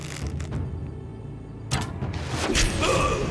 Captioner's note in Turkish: Ok fırlatma sesi